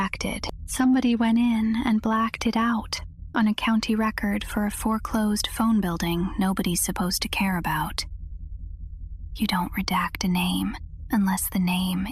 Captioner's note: whispers